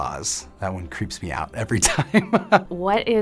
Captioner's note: laughs